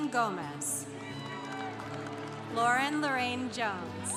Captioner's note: congregation applauding